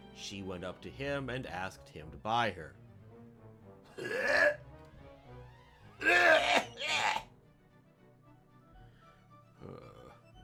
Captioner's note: retching noises